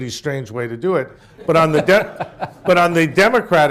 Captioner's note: laughter